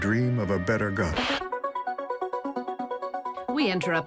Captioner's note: static buzzes, electronic musical trill